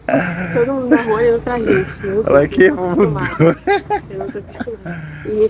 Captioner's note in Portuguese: risadas